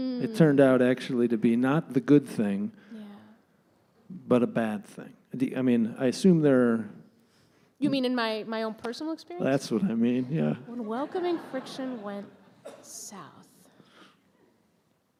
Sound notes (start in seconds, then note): 10.7 laughter from audience